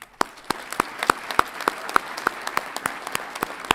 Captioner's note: audience applauds